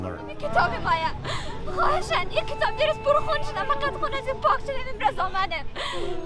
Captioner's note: speaking in a foreign language